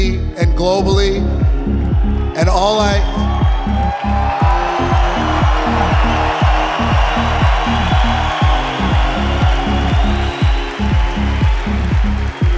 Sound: applause

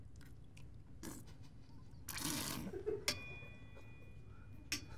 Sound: slurping

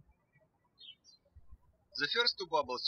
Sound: birds chirping

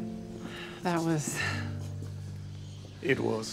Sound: sighs

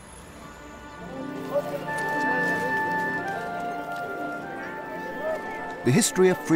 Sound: mystical music; people chattering

